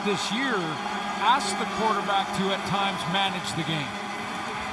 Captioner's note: noisemakers